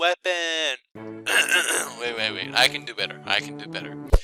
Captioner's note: coughing